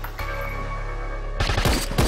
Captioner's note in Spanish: Disparo